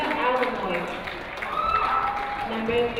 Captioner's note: crowd cheering